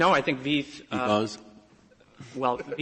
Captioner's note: laughter